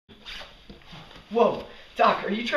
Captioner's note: none